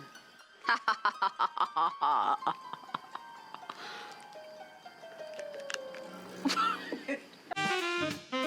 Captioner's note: evil laugh